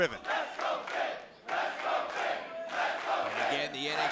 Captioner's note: fans chanting